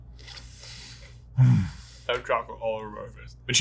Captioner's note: exhales